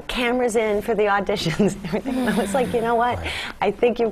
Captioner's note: laugh